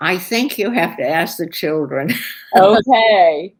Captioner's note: laughter